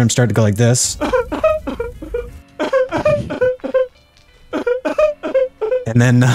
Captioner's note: Eugene pathetic cry.wav